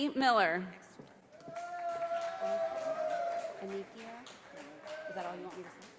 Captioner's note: audience applauding